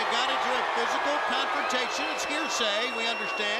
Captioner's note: crowd cheering